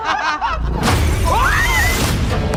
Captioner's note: laughing; loud boom; outro music